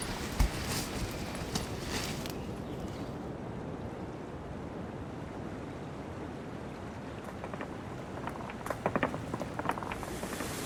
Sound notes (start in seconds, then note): 0.0 footsteps; 4.5 rushing water; 7.2 falling rock noises